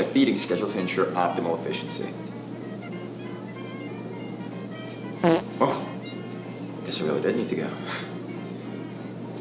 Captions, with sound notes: feeding schedule to ensure optimal efficiency [Farts loudly] Whoa, I guess i really did need to go.